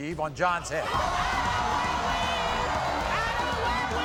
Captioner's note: audience gasping